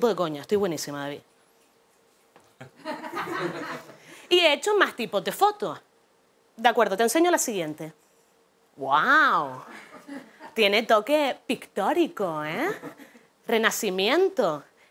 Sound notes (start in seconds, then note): 2.6 laughter